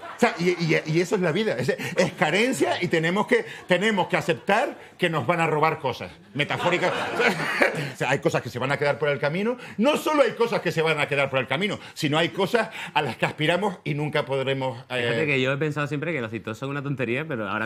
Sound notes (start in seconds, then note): 6.4 laughs